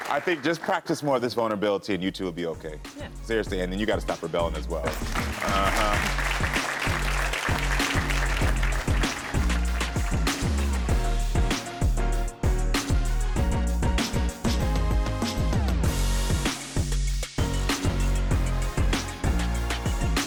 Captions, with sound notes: I think just practice more of this vulnerability and you two will be okay. - Yeah. - Seriously. And then you gotta stop rebelling as well. (audience applauding) Aha. (audience applauding) (upbeat music) (upbeat music)